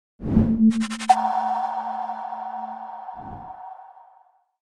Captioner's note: logo whooshing